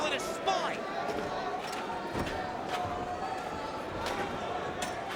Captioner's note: crowd chattering